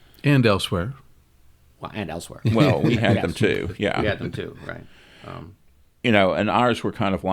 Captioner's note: laughs